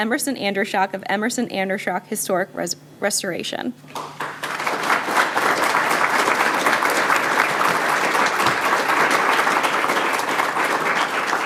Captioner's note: applause